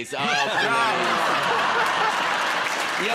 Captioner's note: laughter